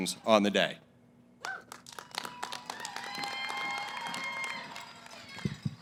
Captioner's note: applause